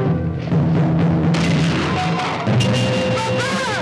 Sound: gun fires

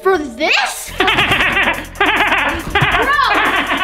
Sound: Grinch laughing

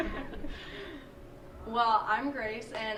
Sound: laughter

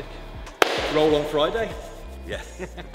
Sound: hands clapping

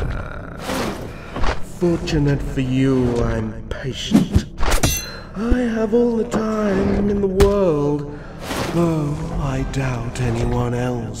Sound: sneer

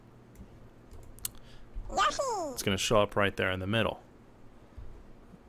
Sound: Yoshi noise

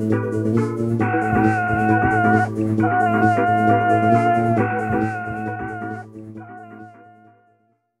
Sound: screams

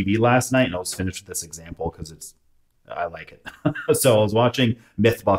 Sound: laughs

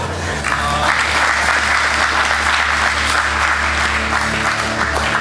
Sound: spectators applauding

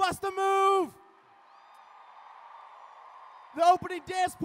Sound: cheering

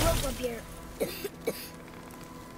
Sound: coughs

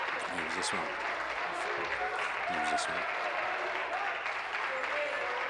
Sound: applause

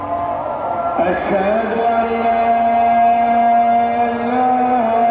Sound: man speaking in foreign language

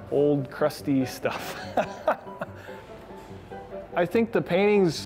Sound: laughter

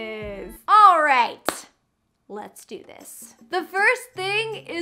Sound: claps

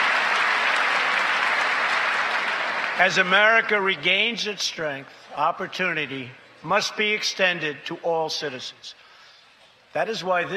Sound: applause

